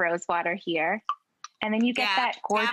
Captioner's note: water drops